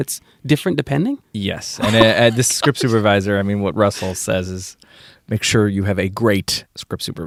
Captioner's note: laughter